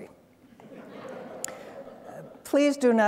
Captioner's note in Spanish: risas